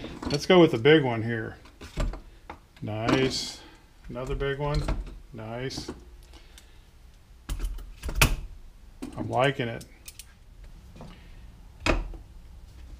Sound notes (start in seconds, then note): none